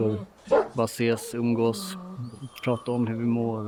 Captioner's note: A dog barks